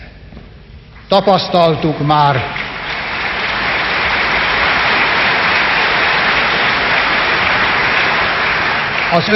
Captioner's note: applause